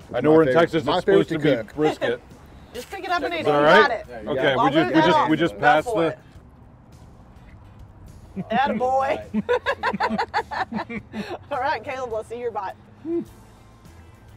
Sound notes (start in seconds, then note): 8.4 laughs; 11.0 chuckles